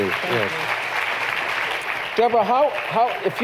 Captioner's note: applause